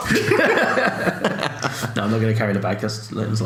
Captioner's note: laughs